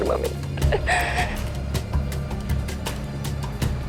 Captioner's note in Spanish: Sollozos